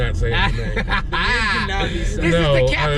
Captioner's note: laughs